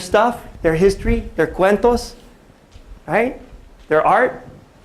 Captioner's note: non-english speech